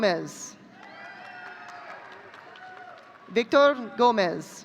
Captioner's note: audience cheering